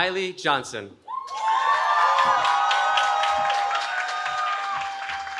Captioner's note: cheering